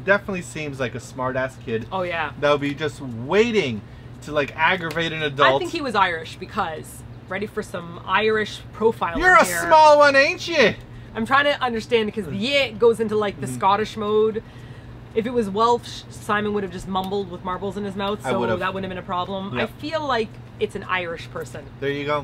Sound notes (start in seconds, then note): 8.8 Irish accent